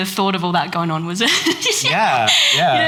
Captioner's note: laughs